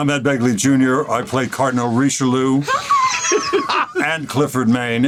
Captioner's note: laughs